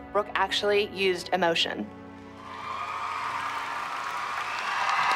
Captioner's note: cheering